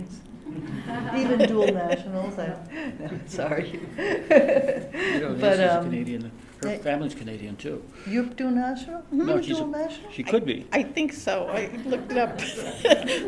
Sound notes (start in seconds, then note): 0.3 laughter